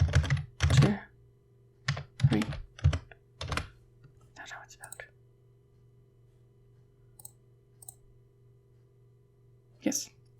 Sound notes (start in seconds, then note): 1.4 whisper